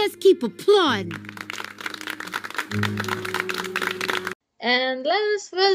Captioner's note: applaud